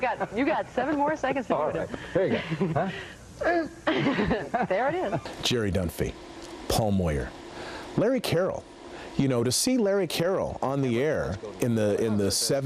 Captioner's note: laughter